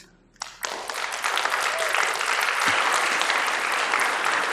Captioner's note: applause